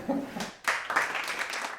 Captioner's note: audience applause